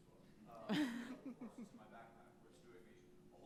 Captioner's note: audience laughs